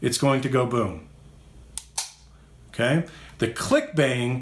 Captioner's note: gun clicks